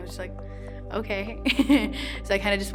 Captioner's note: laughs